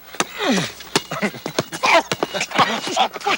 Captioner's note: grunting